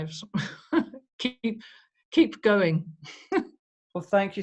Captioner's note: chuckles